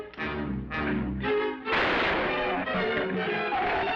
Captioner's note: gunshot